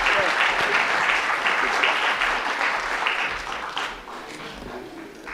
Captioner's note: audience applauds